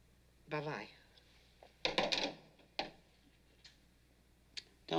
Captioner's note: handset Settles In Cradle